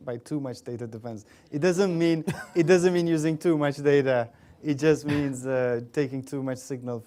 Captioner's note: laughter